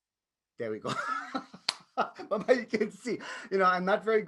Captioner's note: laughs